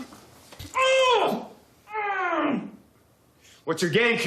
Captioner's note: screaming